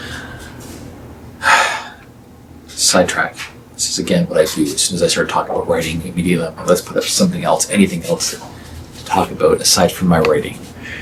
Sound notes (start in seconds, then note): 1.4 sigh